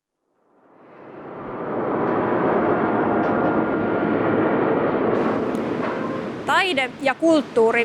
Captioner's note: industrial ambience